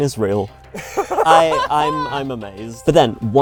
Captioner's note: laughing